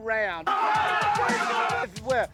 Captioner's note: group chattering; upbeat music